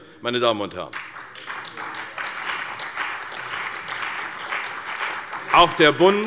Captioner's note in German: Beifall bei der CDU und dem BÜNDNIS 90/DIE GRÜNEN